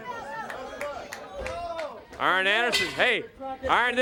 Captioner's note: crowd cheering